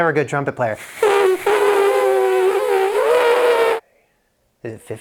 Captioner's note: blows raspberry